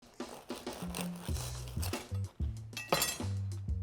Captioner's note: knife cutting; upbeat music